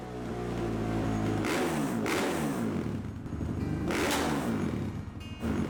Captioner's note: bike engine roaring